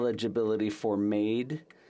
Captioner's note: speaking French